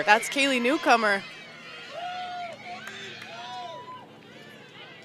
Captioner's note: cheering